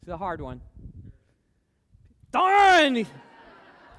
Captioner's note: background cheering